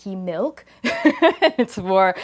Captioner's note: laughs